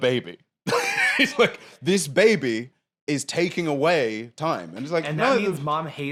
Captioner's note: laughs